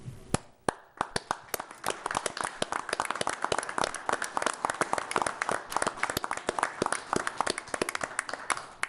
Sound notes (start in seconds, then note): 0.6 group applauding